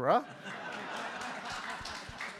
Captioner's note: audience laughs; audience applauds